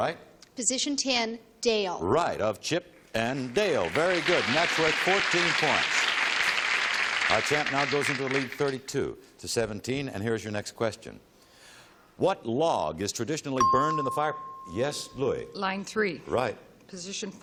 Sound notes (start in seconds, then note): 6.4 applause